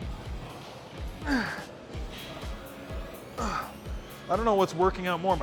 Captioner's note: Ethan grunting